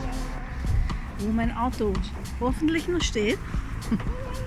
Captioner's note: laughing